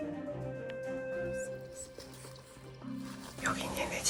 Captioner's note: whispering while explaining